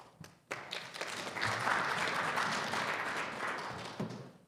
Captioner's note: audience applauding